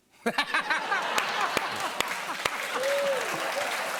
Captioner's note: cheers and applause